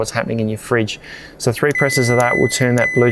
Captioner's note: fridge beeps